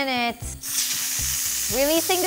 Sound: loud steam releases

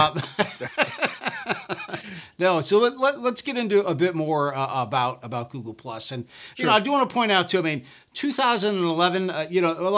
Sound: laughs

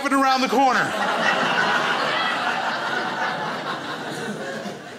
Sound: crowd laughs

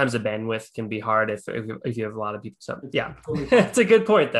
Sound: chuckling

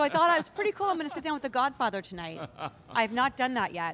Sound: laughs

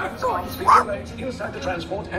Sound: Toto Barks Happy

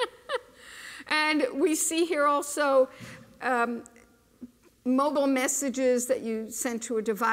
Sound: laughter

